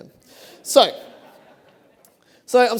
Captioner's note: laughter